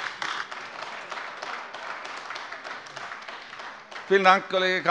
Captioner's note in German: Beifall AfD